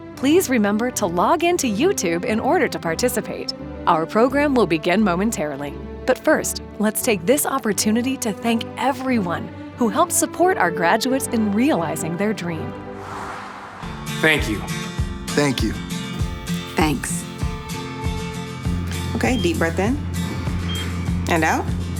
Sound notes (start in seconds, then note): 14.0 upbeat music plays; 20.3 machine beeps